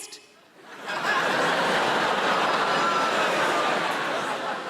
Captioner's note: audience laughing